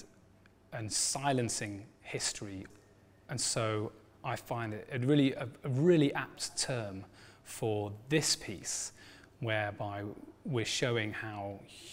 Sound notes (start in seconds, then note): none